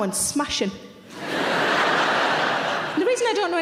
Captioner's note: audience laughter